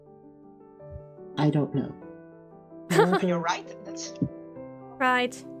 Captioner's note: ROSE laughs